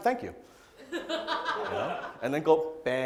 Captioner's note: audience laughs